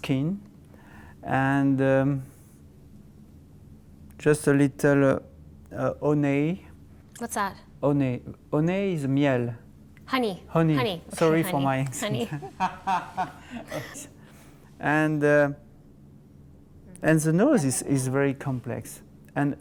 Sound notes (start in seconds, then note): 10.9 laughing